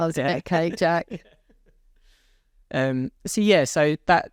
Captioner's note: laughs